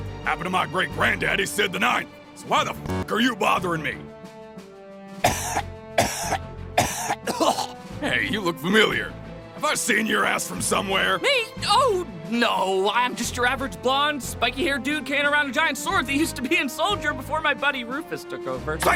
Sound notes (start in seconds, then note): 5.9 cough; 5.9 cough, cough, cough; 6.7 cough, cough, cough, hack; 6.7 cough, cough